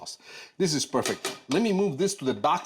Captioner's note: spoon taps pot